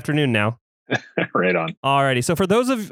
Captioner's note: laughs